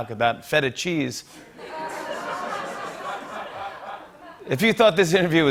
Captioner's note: laughter